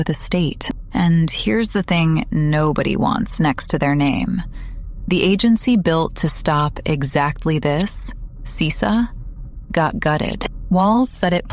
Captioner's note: breath